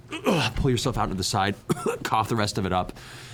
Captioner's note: grunt; cough